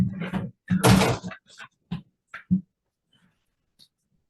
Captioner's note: door slams